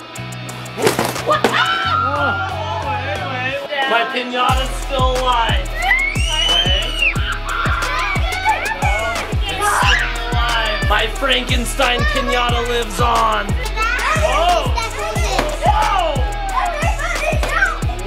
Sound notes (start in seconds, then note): 1.2 crowd screams; 6.8 screams